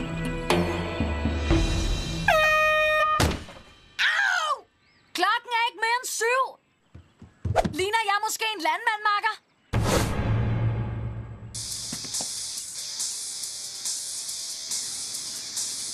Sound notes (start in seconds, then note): 2.3 air horn blowing; 11.6 rock music playing faintly